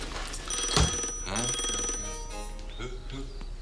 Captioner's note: phone ringing